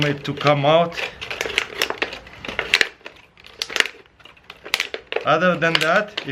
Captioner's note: weaving plastic